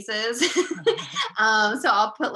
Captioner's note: laughing